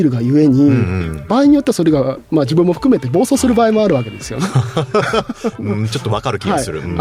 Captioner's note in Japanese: 笑い